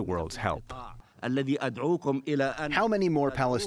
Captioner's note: through translator